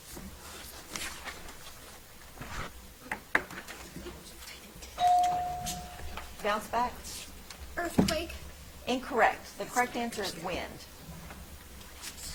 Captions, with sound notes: (bell ringing) Bounce back? - Earthquake. - Incorrect. The correct answer is wind.